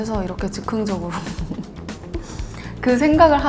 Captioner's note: hehehehe